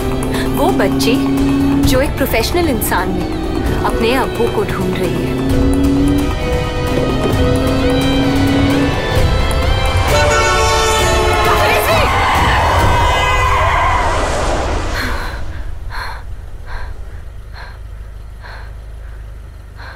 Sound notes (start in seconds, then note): 5.3 Car speeding; 9.9 Car honking